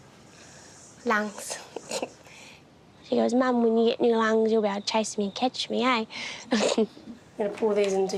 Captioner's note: laughs